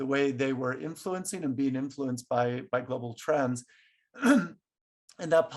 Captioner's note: clears throat